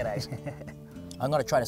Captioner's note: laughs